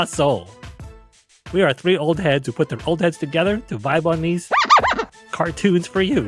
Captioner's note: record scratching